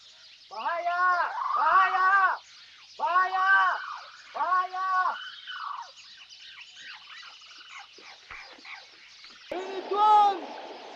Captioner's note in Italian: urlo